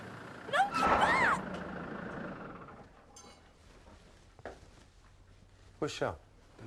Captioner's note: tires squealing